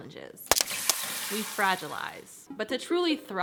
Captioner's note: egg sizzling